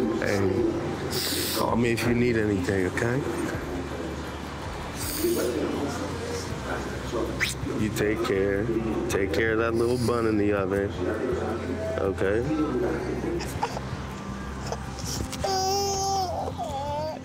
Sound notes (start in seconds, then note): 0.0 kiss smooching; 5.2 sniffling; 7.4 kiss smacks; 15.1 cries